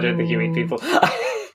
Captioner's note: laughing; laughs